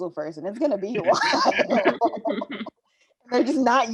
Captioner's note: all laughing